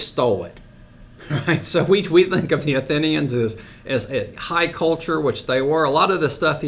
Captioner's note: chuckles